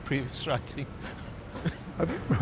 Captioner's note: laughter